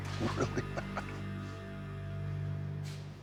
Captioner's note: chuckles